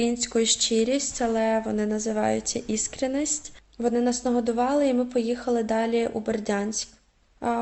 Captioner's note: in russian